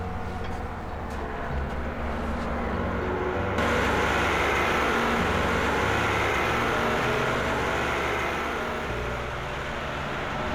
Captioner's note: tractor approaching